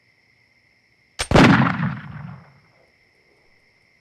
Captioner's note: gunshot